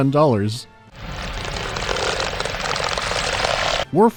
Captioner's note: rubbery stretching